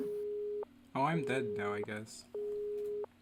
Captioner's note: phone line going dead